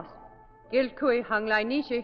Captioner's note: speaking foreign language